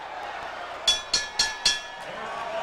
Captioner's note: bell rings 4 times to end round 1